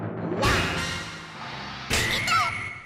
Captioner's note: drumroll crescendos; Waluigi 'wahs'